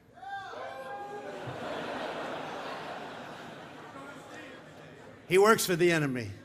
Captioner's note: laughter